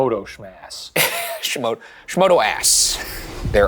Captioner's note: laughs